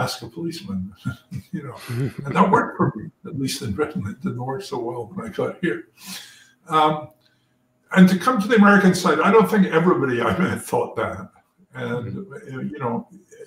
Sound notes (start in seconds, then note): 0.0 laugh